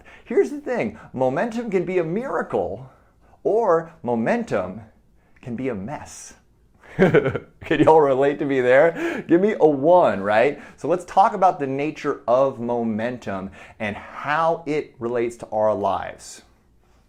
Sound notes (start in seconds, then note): 6.8 chuckles